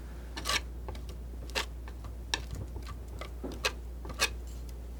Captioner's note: scratching